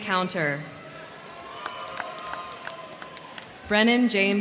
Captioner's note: crowd cheering; crowd clapping